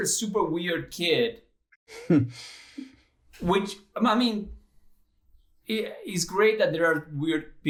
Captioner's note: laughter